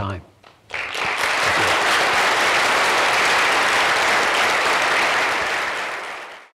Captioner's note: applause